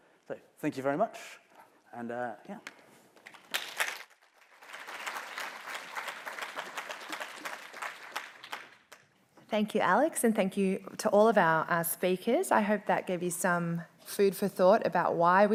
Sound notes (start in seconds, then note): 3.2 applause